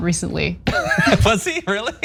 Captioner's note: laugh